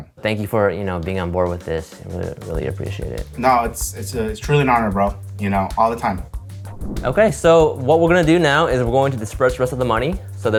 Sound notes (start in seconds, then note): 6.5 air whooshing